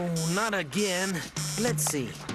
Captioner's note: computer buzzing